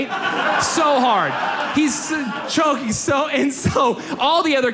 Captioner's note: audience laughs